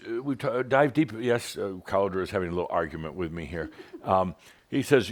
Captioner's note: giggles